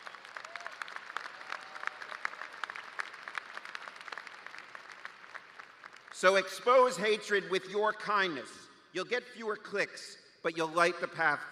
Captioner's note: cheers and applause